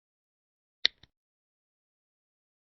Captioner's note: mouse click